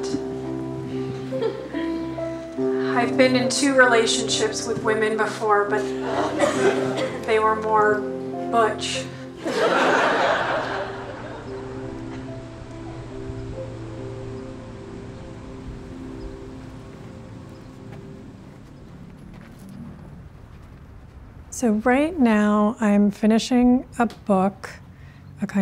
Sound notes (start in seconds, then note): 9.4 laughter; 11.5 ambient music